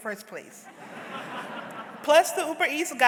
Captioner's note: audience laughs